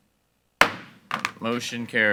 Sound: gavel bangs

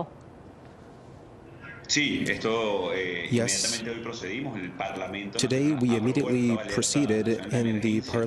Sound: speaking spanish

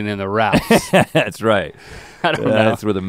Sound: chuckles

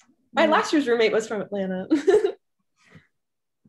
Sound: chuckles

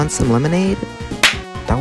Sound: shlap

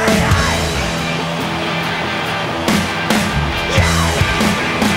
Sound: audience cheering

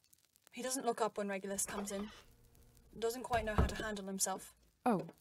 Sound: door opens and closes

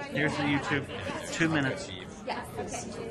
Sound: voiceover

